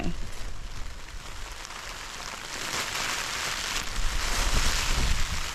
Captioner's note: rain